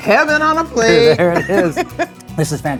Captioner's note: laughing